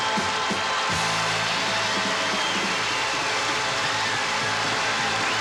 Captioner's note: cheering